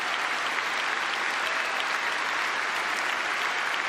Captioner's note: cheering